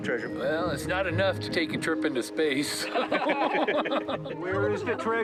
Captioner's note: laughs